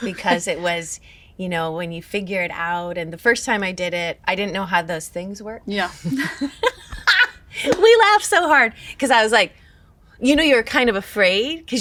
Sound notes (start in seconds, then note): 6.0 chuckle; 6.0 laughs